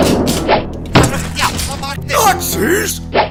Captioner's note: German mumbling